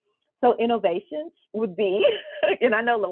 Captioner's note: laughs